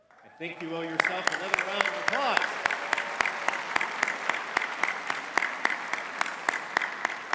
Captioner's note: audience clapping